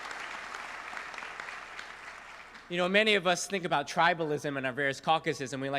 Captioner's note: applause